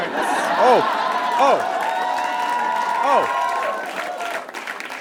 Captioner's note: audience cheers and applauds